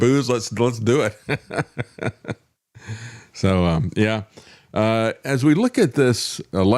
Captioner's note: laughs